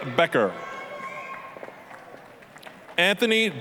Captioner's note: applause, cheering